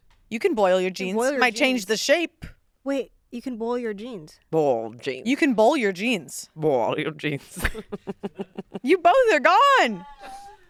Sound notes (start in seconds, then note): 7.4 laughs